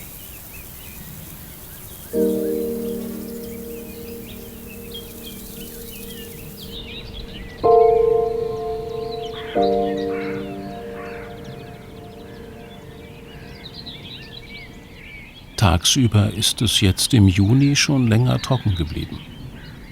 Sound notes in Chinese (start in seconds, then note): 2.5 安静的音乐; 7.6 鸟叫声